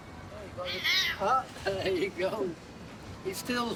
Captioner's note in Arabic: مواء القطة